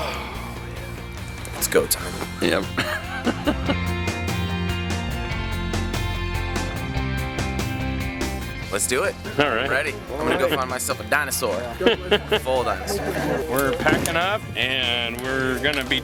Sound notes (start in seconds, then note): 4.0 laughing